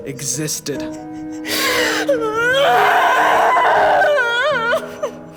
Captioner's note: Wanda Screams